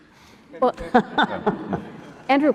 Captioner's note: laughter